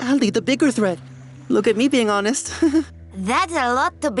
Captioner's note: giggles